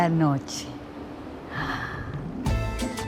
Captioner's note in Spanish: exhales